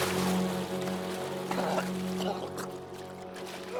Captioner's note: coughing